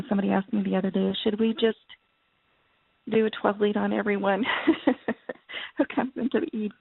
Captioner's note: laughs